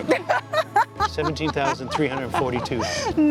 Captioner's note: laughs